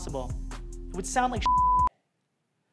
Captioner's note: beep